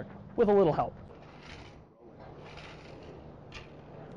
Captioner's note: sound of grass being raked